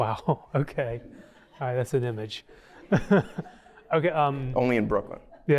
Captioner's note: laughter